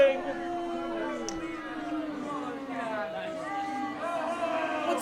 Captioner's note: audience boos